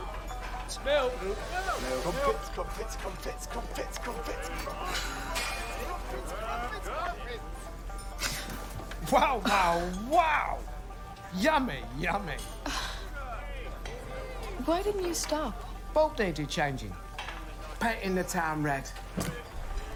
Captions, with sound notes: - ( gasps ) - WOW WOW WOW! YUMMY YUMMY. ( sighs ) WHY DIDN'T YOU STOP? BULB NEEDED CHANGING. PAINTING THE TOWN RED.